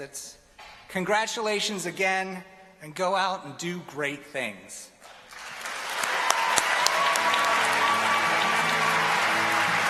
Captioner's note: applause